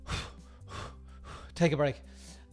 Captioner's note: mock-panting